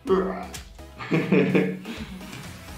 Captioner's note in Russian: Смех